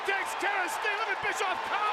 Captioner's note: crowd cheering